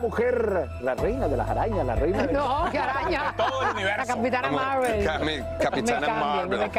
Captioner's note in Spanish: risas